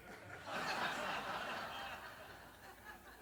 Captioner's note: audience laughs